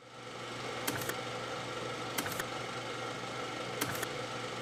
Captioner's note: typewriter sound